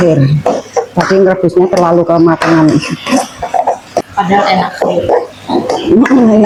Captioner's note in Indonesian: tertawa